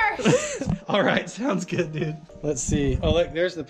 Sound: laughs

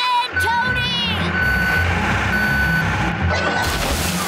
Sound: beeping

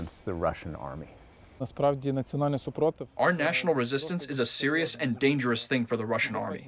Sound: through translator

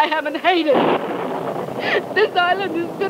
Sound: thunder cracks

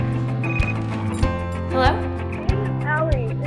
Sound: phone rings

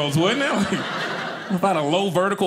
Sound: audience laughing

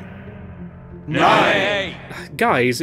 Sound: mixture of Ayes and Nays

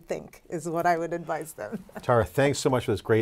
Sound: laughs

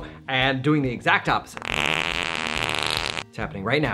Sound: fart noise

